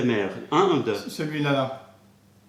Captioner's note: french